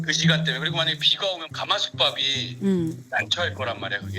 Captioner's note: rice in Korean cauldron